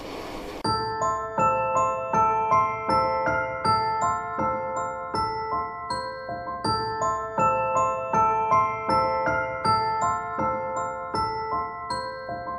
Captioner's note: machine sound